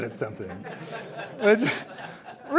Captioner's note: audience laughing